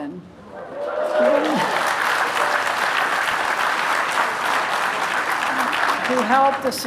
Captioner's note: applause